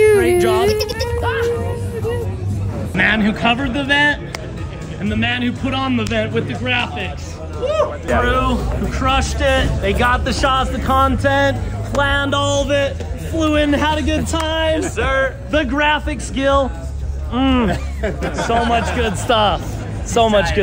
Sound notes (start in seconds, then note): 4.2 hands clap; 14.2 hands clap; 17.6 everyone laughs